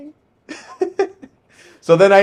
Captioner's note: laughing